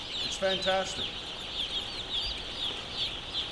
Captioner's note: chicks chirping